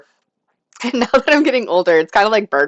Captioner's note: laughter